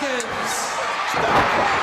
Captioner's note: crowd chatter; crowd cheering